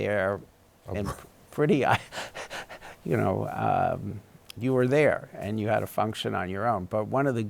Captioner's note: chuckles